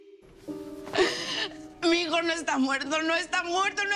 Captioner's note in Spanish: Sollozos